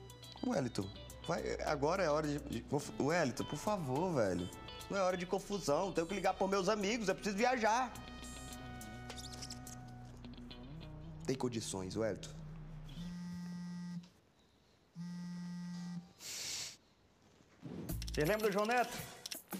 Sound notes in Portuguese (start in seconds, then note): 9.1 rangendo; 12.3 celular vibrando; 16.2 expira